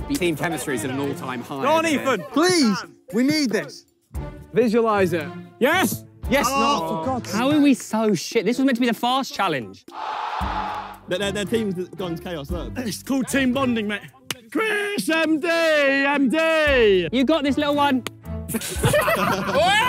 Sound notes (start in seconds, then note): 6.8 players groan; 9.8 crowd cheering soundtrack plays; 18.5 players laugh